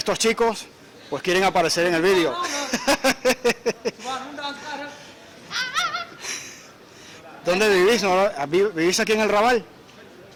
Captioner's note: laughs